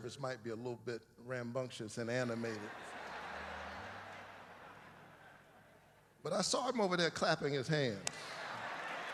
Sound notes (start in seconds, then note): 2.2 laughter